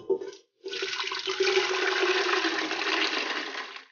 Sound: water pouring

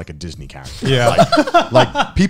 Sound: laughing

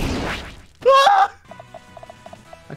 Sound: exclaiming

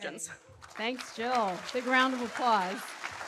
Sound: audience applauding

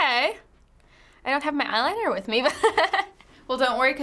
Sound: laughs

